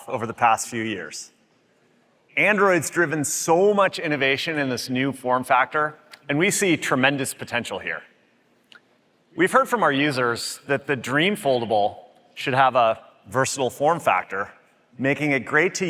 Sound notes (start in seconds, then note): none